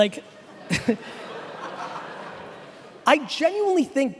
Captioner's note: laughing